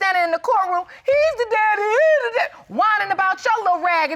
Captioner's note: imitates mockingly